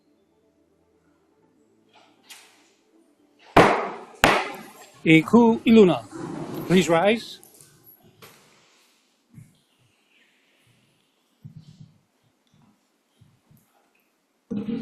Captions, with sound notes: [gavel bangs twice] E kū i luna. Please Rise!